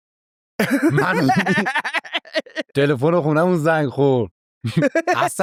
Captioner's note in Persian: خنده